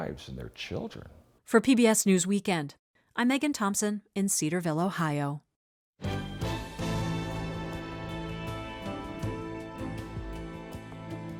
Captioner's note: voice-over